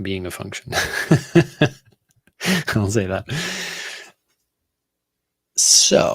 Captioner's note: laughing